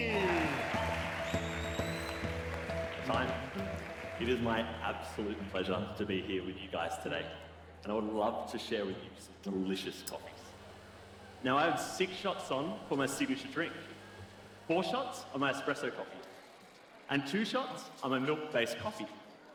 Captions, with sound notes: (cheering) (applause) - Time. It is my absolute pleasure to be here with you guys today. And I would love to share with you some delicious coffees. Now I have six shots on for my signature drink. Four shots of my espresso coffee, and two shots of my milk-based coffee.